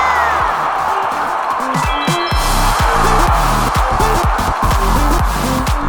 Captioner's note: cheering and applause; shimmering musical sound; bass thumping beat